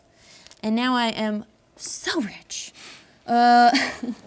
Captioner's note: laughs